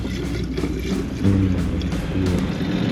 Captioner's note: gas sloshing; engine rumbling